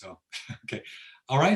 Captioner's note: laughs